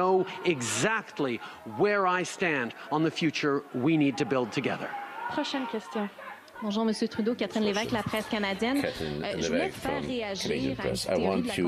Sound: chanting

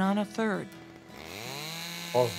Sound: chainsaw

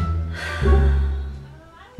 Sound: sigh

